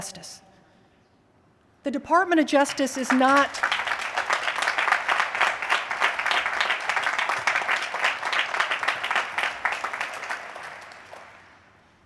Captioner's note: applause